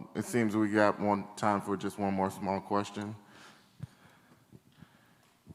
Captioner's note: none